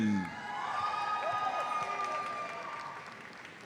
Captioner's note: audience cheers; audience applauds